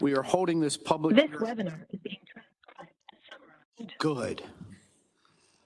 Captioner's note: machine Voice